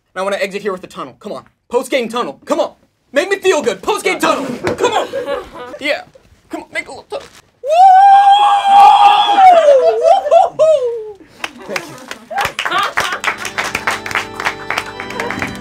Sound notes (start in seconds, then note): 7.7 cheering; 8.0 clapping